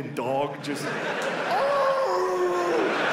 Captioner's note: imitates dog barking